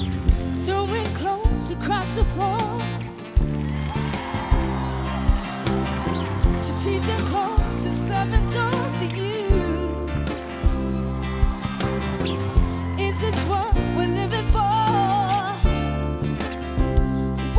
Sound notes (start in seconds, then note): 3.1 audience cheers